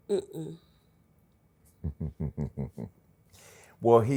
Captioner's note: laughs